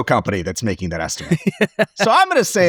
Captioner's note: laughs